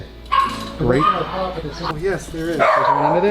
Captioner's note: dogs barking